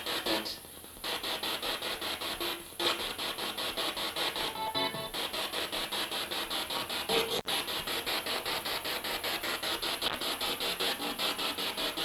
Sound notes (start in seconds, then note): 0.9 sound of the Spirit Box in the background